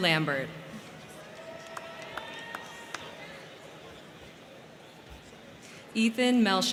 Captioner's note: crowd cheering; crowd clapping